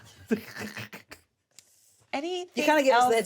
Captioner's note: all laugh